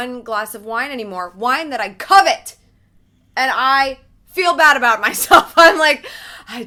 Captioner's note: laughs